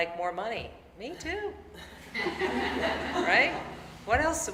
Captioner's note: audience laughing